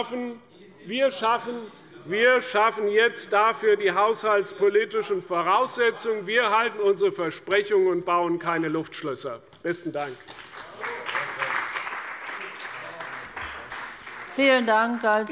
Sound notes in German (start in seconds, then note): 10.0 Beifall bei der CDU und dem BÜNDNIS 90/DIE GRÜNEN